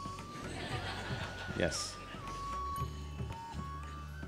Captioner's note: laughter